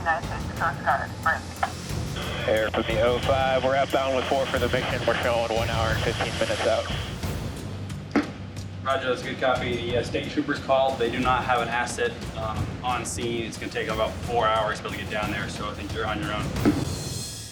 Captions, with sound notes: - [Man Over Radio] Air to the 05, we're outbound with four for the victim. We're showin' one hour and 15 minutes out. - Roger, that's good, copy. Yeah, state troopers called. They do not have an asset on scene. It's gonna take about four hours to get down there, so I think you're on your own.